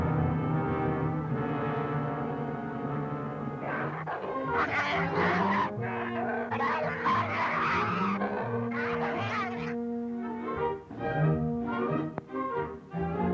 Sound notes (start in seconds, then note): 3.4 snarling